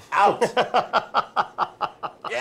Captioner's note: laughs